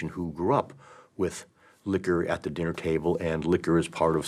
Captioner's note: none